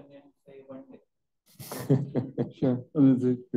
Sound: panelists chuckle

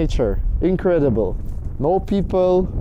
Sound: wind blowing

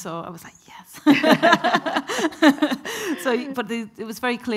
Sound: both laughing

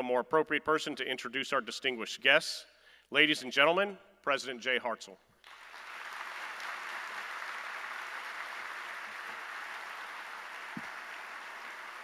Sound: applause

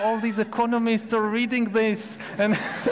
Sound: audience laughs; laughs

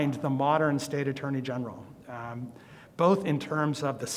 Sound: none

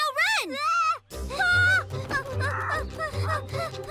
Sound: screams; both panting

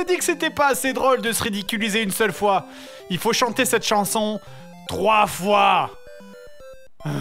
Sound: sigh

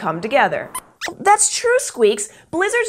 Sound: squeaks Squeaks

